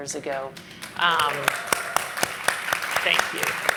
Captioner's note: applause